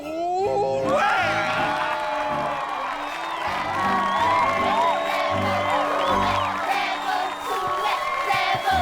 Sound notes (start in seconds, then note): 0.8 cheers